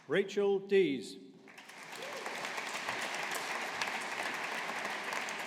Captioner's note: audience applauding